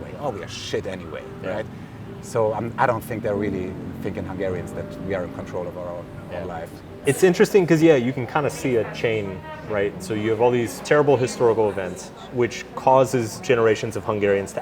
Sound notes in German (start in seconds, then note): none